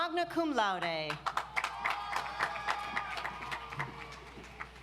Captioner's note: audience applauds